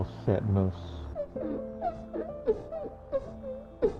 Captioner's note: sobbing